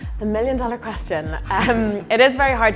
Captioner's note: laughing lightly